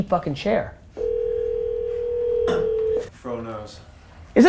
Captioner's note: phone ringing